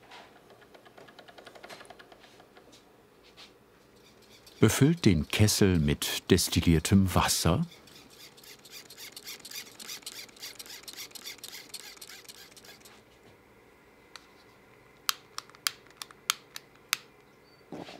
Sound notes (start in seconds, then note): 7.6 squeaking pumping; 15.0 repeated clicking